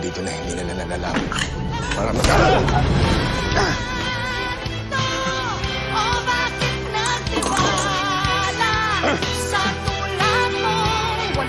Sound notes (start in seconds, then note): 2.2 both grunt; 3.4 rafael groans; 7.1 objects clatter; 8.7 moises grunts